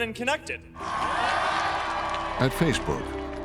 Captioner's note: cheering